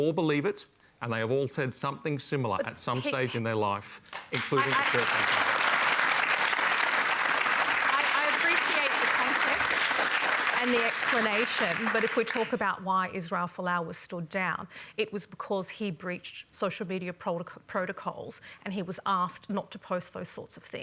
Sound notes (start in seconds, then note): 3.9 applause